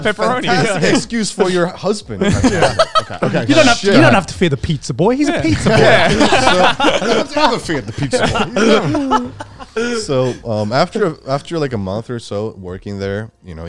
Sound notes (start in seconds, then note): 5.2 all laughing